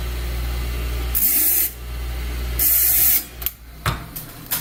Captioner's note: metallic scraping noise